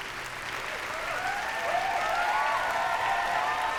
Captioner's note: whooping, cheering